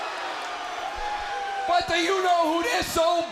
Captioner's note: crowd cheering